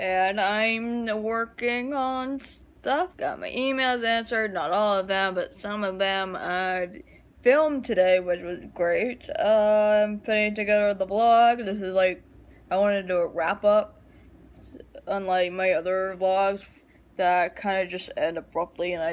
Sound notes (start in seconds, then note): none